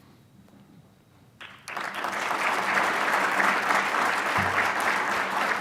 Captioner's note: audience applauds